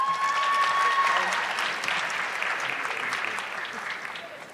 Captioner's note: audience clapping